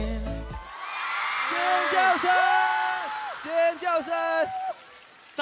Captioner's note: audience screaming